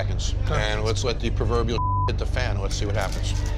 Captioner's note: beep